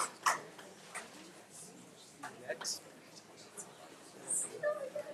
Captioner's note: attendees chattering